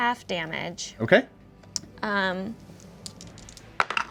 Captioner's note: dice clatter